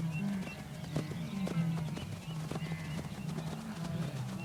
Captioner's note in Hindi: चहचहाहट